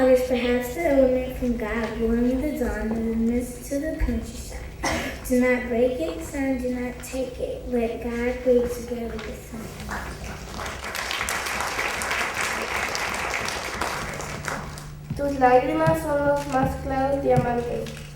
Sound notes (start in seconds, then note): 10.2 applause; 15.8 speaking Spanish